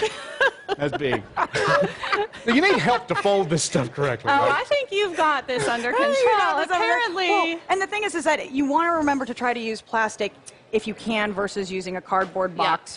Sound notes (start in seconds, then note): 3.2 laughter